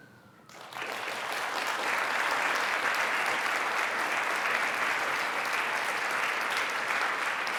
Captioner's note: applause